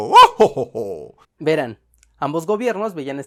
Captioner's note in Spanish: ríe satisfecho